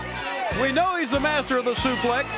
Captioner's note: crowd cheering